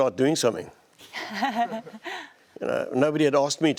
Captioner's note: laughter